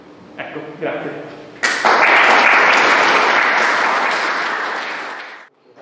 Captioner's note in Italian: Applausi